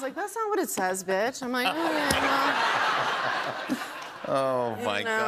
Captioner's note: laughter